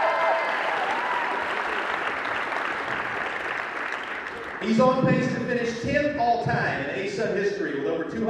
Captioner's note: cheering